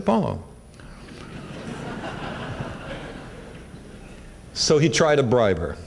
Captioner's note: laughter